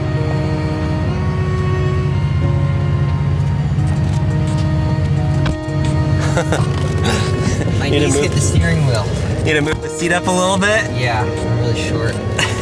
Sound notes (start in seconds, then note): 0.2 cheerful music; 6.1 laughing